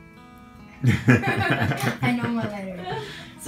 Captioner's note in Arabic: ضحك